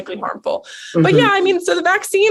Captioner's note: humming